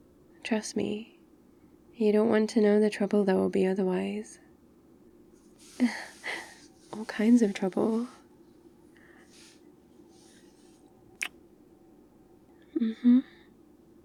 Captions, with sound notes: trust me you don't want to know the trouble there'll be otherwise *shuffling* *laughs* all kinds of trouble *kiss* mmhmm